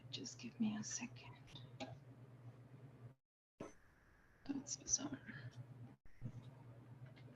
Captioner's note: none